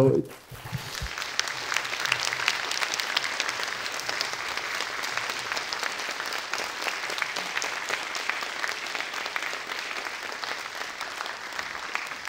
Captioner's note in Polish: oklaski